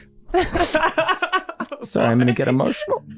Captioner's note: laughing